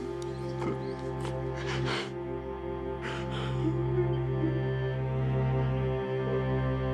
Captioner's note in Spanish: sollozos